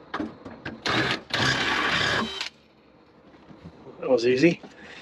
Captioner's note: drill whirring